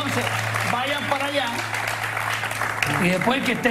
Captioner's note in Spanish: aplausos